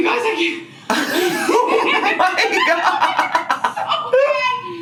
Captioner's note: both laughing